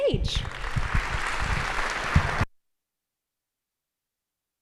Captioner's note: audience applauding